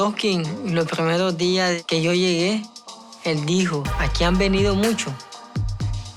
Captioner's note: speaking in spanish